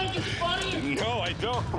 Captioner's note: chuckles; man shouts